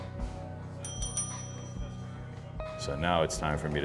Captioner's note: bell rings